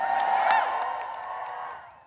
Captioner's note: cheering